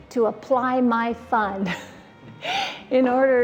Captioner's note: laughs